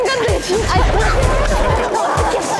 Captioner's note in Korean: 우당탕탕탕